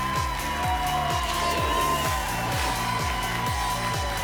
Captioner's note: whoosh; applause and cheering cont